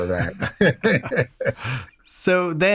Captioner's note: laughter